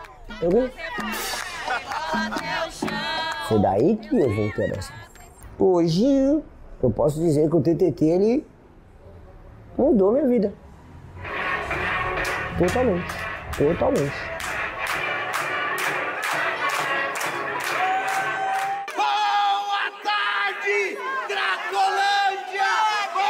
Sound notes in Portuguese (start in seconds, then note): 1.6 homem ri; 14.2 Música animada